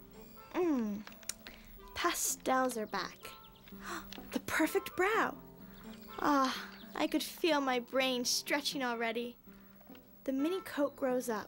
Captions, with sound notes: MMM. PASTELS ARE BACK. ( gainspg softly ) "THE PERFECT BROW." AH, I COULD FEEL MY BRAIN STRETCHING ALREADY. "THEIN MI-COAT GWSRO UP."